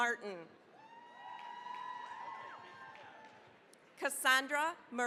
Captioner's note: cheering, applause